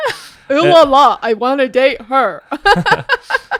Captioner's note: in deep voice